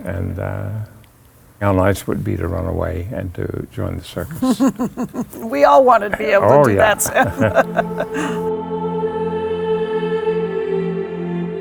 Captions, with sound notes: And how nice it would be to run away and to join the circus. - (chuckles) We all wanted be able to do that, too. - Oh, yeah. (chuckles) (angelic choral music)